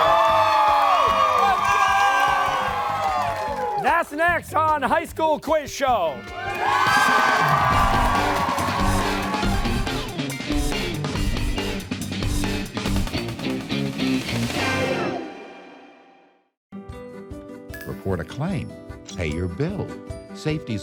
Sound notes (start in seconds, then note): 0.0 cheers and applause; 6.3 cheers and applause